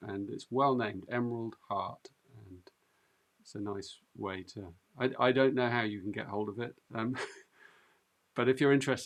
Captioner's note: chuckles